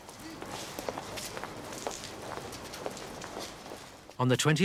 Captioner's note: footsteps pattering